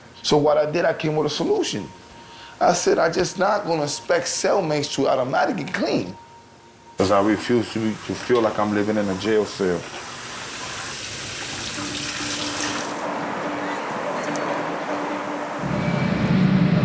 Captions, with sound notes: So what I did, I came with a solution. I said, I just not gonna expect cellmates to automatically clean because I refuse to feel like I'm living in a jail cell. (water running) (instrumental music)